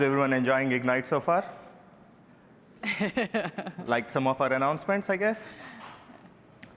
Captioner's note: laughter